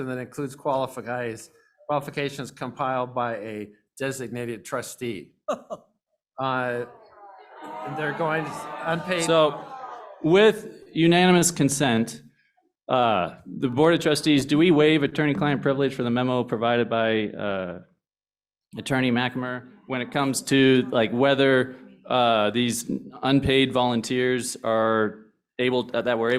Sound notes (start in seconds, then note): 5.5 laughter; 6.0 groans